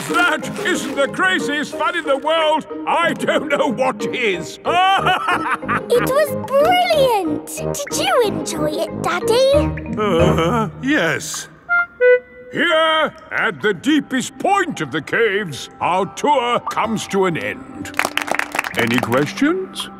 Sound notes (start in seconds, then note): 4.6 laughing; 9.9 groans; 17.8 all clapping